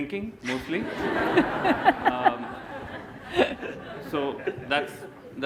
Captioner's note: laughter